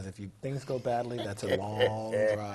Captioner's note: laugh